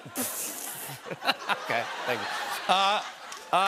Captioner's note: laughter